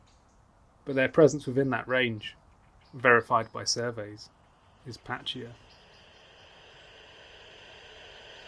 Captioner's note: static hiss from detectors rises